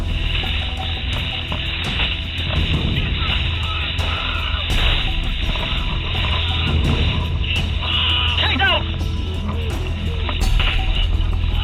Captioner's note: gunfire